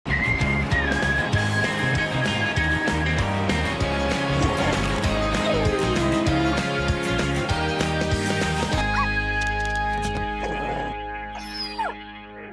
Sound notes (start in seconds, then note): 0.2 upbeat music; 10.3 barking